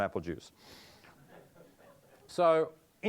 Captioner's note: audience laughing